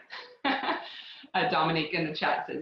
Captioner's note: laughs